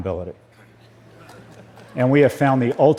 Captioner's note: laugter